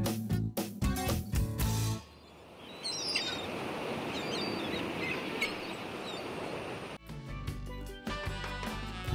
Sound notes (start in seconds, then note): 2.0 seagulls calling; 4.9 ocean waves crashing